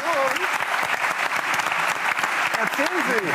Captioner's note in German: Applaus